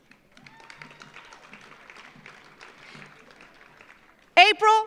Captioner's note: audience applauds